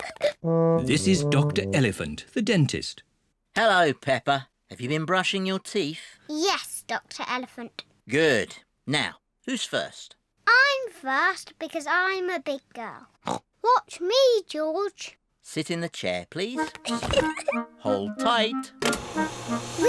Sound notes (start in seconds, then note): 0.0 both giggle; 13.1 snorts; 16.8 giggles